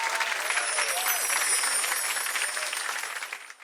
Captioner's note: tones chime